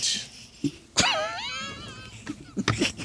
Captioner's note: laughing